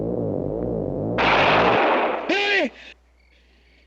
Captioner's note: gunshot